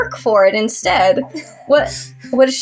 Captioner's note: chuckle